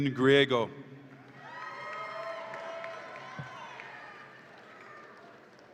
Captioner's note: audience applauds and cheers